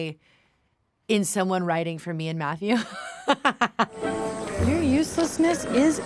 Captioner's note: laughs